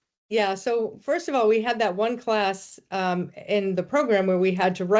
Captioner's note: none